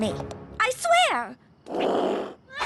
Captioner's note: growl